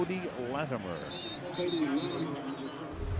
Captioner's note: whistle